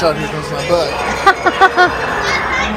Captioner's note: laughing